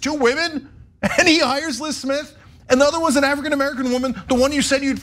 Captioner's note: laugh